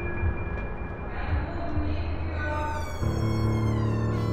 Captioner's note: distant voice